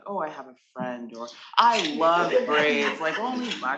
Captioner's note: attendees laughing